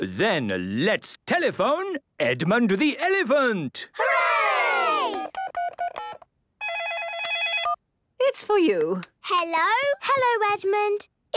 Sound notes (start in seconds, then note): 6.6 dial tones beeping; 6.7 ringing